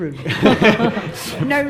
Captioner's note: people laugh